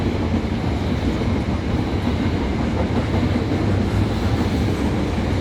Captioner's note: train rumbling